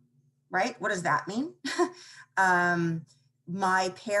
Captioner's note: chuckles